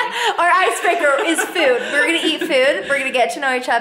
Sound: laughs

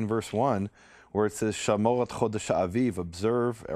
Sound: speaking in a foreign language

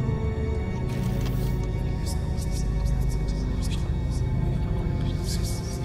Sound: click; whispering Sounds

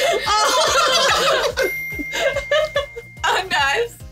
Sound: bell dinging; group laughing; bell dinging

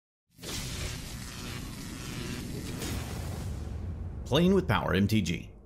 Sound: electricity Buzzing

